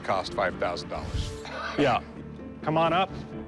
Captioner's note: laughs